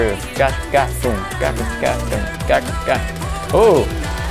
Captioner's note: mimics percussion